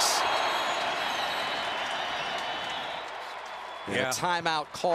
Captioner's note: whistles